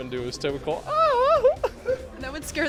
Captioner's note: laughing